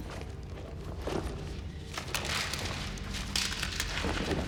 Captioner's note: paper rustling